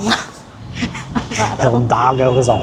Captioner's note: laughing